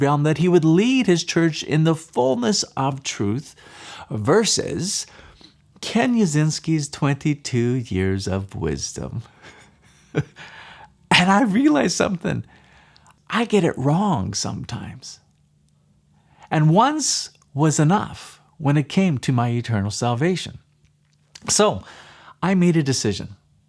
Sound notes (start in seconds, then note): 9.4 laughs